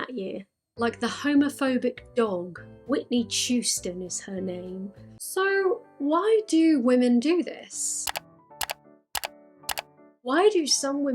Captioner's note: click, click, click